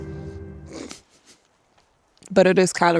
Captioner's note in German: kichert